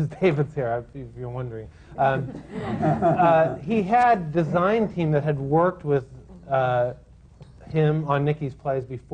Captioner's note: laughter